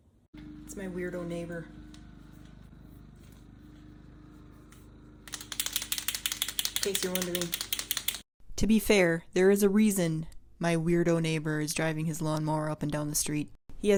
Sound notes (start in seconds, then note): 5.2 shaking pen